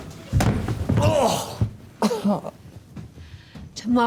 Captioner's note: object thuds; grunts